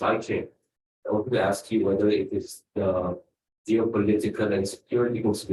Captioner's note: speaks faintly